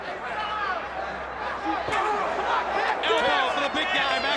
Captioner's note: crowd chatter